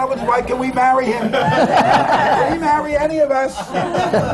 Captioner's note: laughter